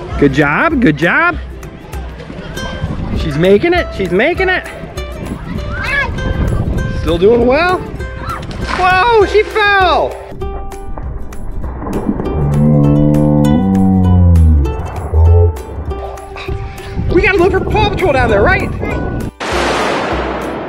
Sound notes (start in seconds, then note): 8.1 screams; 11.1 slow motion speech